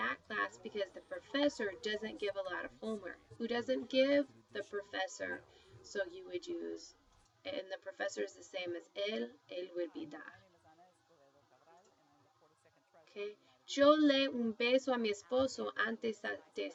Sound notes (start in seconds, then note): 6.4 spanish; 8.3 speaking spanish